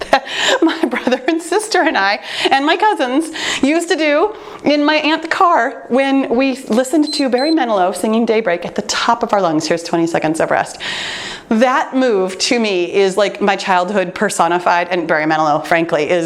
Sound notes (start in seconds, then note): 7.0 timer beeps